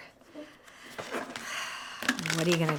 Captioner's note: sighs